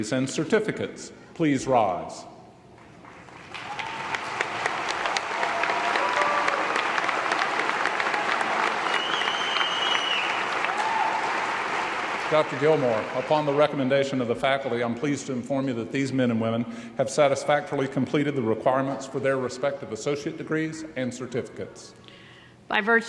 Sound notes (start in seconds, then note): 3.4 audience applause